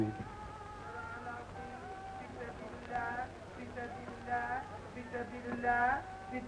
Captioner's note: man speaking in foreign language